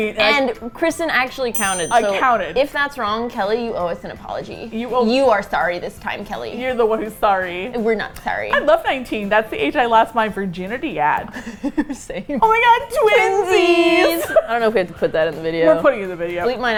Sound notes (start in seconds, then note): 3.3 soCal accent; 11.3 laughs